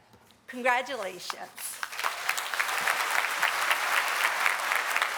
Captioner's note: applause